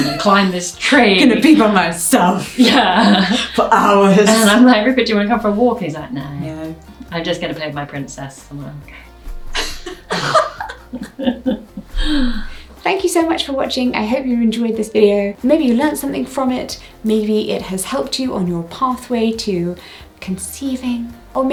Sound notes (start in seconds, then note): 2.5 laughs; 9.5 both laugh